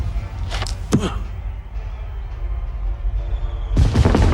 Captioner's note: grunts